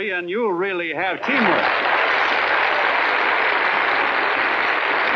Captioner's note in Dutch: applaus